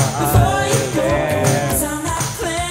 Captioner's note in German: Stöhnen; Beschwingte Musik